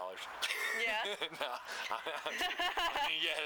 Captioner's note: laughter